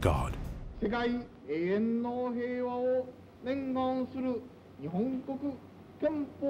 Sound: man speaking in foreign language

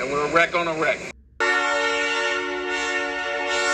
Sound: 1206 blows p5 horn at crossing

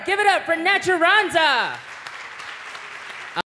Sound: applause

